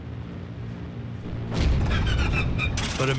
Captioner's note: engine booms and sputters